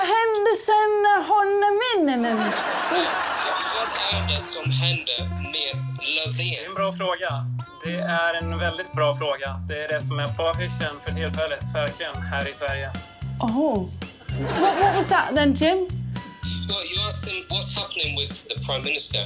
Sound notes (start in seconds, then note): 0.0 speaking Swedish; 2.2 laughs; 3.3 speaking Swedish